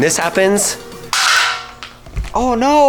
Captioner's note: bottle crashing